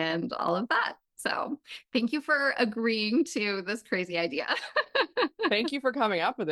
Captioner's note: laughs